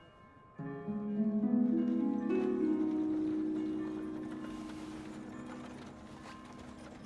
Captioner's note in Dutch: kerkklokken luiden; rammelende koets